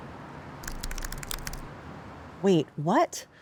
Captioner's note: keyboard clicking